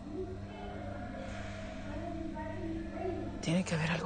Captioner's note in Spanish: Murmullo de la reclusa